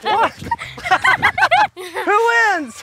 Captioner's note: laughs